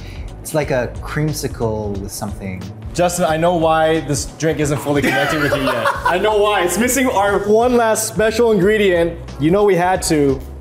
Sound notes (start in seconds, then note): 5.0 laughs